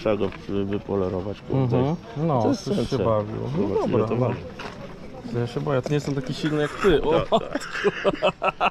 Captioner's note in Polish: śmiech